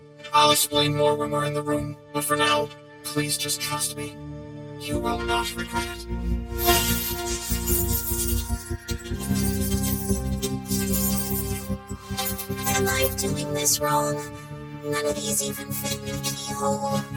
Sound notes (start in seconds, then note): 6.6 keys jingling; 8.6 curious music plays